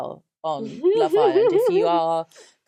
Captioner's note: laughs